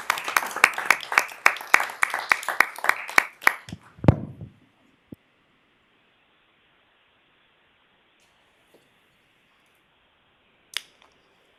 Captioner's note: applause